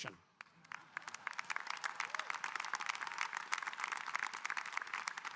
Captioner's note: audience applauding